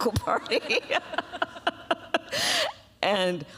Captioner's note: laughs